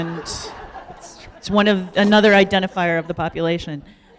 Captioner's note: laughter